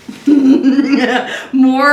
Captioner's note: laughs